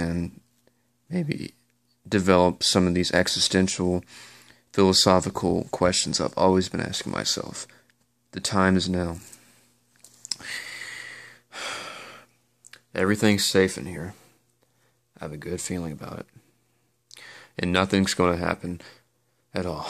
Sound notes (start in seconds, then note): 0.8 voice cracks: maybe; 9.1 wristwatch rattles due to adjustment; 10.3 sighs